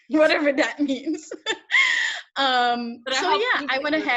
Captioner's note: laughs